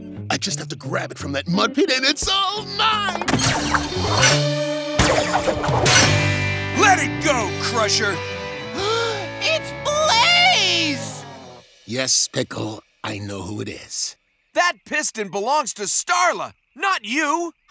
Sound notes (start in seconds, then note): 8.7 gasps